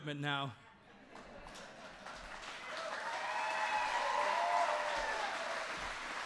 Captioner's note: laughter and applause